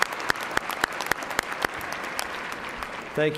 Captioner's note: cheers and applause